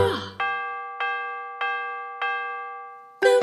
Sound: bell dings

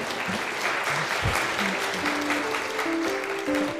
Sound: applause; electronic instrumental music

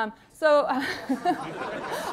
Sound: laughter

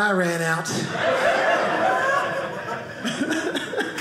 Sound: audience laughing

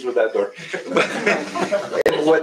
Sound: laughter

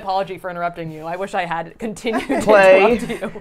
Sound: laughs

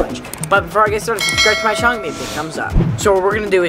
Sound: bell ringing

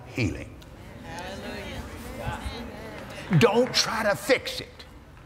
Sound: audience "Amens"

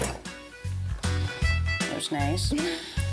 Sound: knife falls

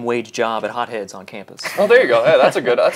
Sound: laughs

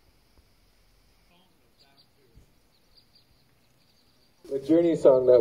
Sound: silence; birds chirping

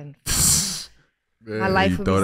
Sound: Iman laughs

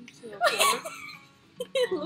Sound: laughter

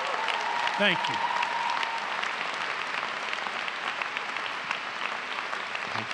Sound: applause and Laughter

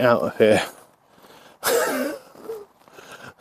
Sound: laughs

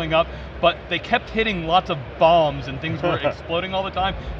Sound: laughing

